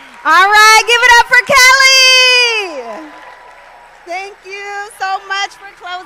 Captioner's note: applause